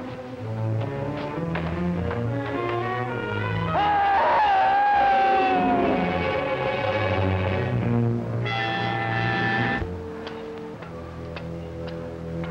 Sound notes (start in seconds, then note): 3.7 man yelling; 5.7 intense music